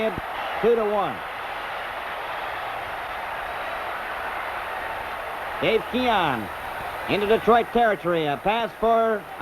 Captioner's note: crowd cheers